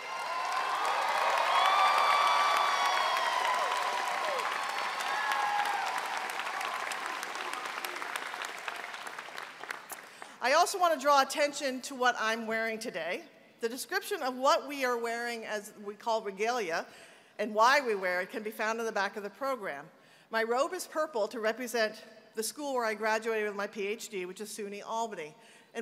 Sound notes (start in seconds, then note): 5.2 applause